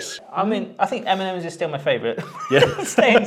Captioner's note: laughs